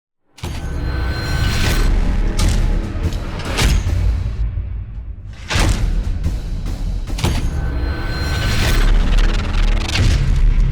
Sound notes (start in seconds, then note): 0.7 metallic clanging